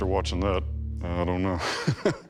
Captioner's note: laughs